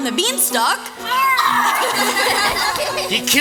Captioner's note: chopping grunt & a play scream. Laughter